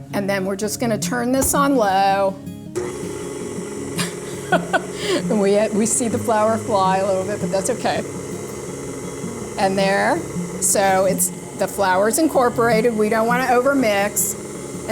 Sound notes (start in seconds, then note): 2.9 blender whirling